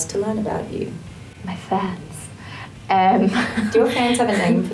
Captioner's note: chuckles